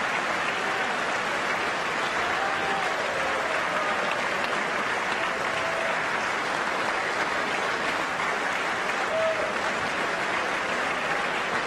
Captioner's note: applause